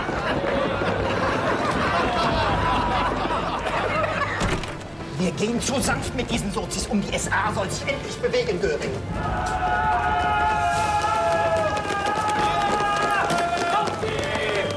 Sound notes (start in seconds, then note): 10.7 yelling